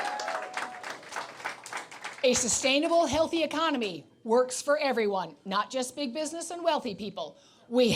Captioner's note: cheers and Applause